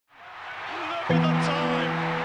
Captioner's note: crowd cheering